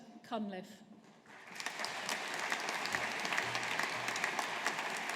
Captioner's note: audience applauding